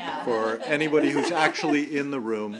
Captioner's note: laughter